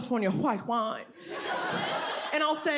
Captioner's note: audience laughs